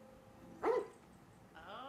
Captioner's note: dog barking